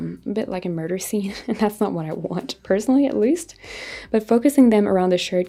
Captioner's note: chuckles